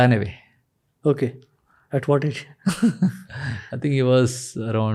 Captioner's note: chuckles